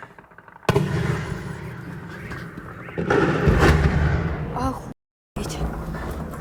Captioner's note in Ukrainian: вибух